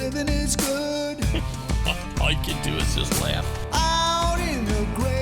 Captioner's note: laughing